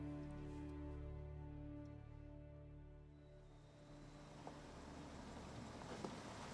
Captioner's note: car approaching